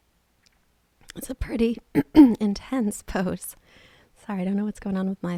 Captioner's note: clears throat